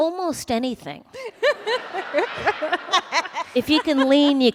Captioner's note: laughter